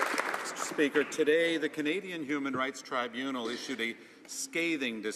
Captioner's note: some Applause